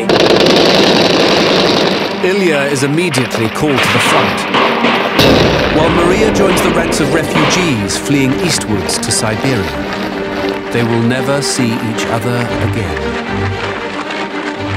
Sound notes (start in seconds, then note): 0.0 guns roaring; 0.1 dramatic music; 5.2 dramatic music; 5.2 guns roaring; 9.7 suspenseful music; 9.7 footsteps thudding